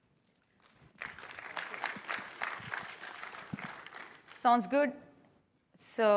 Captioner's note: applause